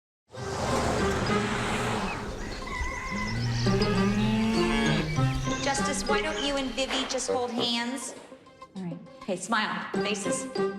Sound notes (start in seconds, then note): 2.0 bird crowing; 3.3 cow mooing